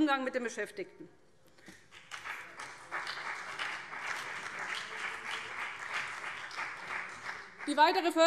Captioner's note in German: Beifall BÜNDNIS 90/DIE GRÜNEN